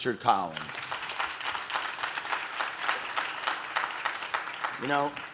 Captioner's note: audience claps